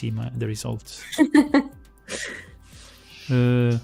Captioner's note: laughs